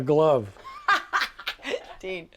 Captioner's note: laughter